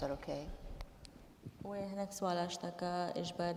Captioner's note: speaking kurdish